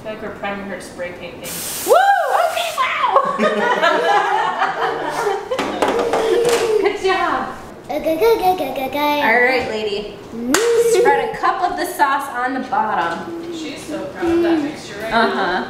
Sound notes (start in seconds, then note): 3.1 everyone laughs